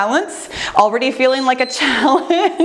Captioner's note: timer beeps